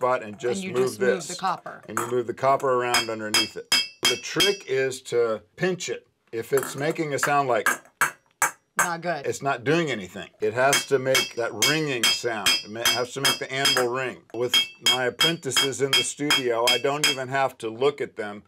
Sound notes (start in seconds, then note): 2.9 hammering; 11.4 tinkling, ringing noise